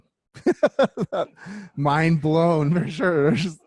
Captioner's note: laughs